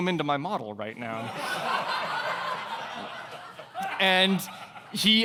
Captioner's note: audience laughing